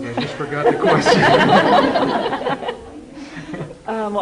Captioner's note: laughter